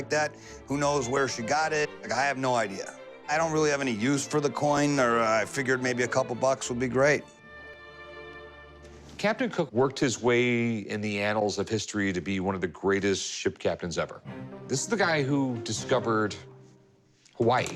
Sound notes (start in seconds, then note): none